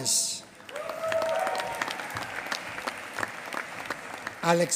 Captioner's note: applause